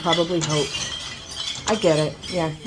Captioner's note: glasses crash